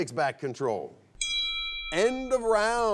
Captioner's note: bell chimes